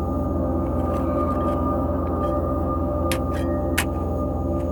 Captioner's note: shovel scraping